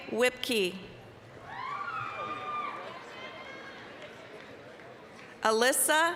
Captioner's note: applause, cheering